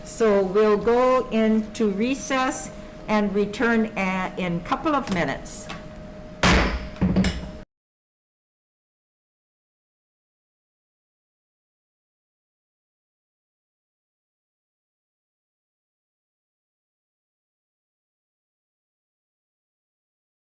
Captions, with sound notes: So, we'll go into recess and return in couple of minutes. (gavel banging)